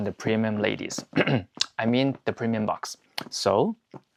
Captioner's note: ahem